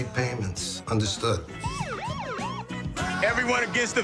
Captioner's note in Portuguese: Siren lamentos